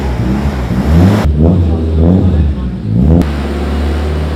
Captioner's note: engine revving